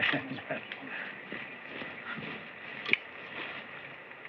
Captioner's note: chuckles